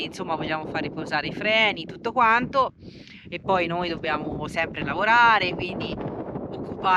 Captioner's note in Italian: sbuffare